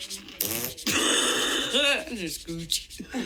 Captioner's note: farting